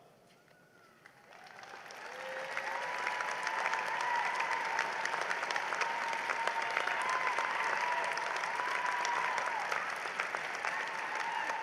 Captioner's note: cheering and applause